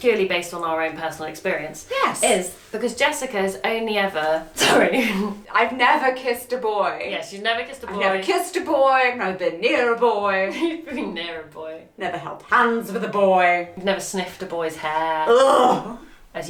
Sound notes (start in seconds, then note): 11.5 laughs